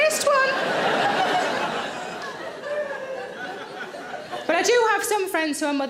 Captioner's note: audience laughing